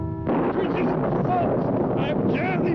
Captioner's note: thunder rumbling